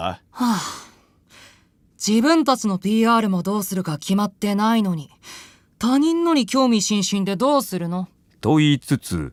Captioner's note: sigh